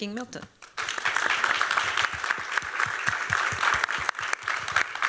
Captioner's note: applause